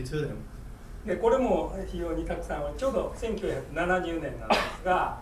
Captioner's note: speaking in foreign language; coughing